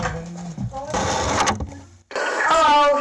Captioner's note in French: bruits de microphone